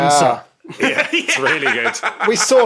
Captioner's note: laughs heartily